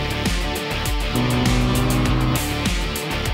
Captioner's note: engines howl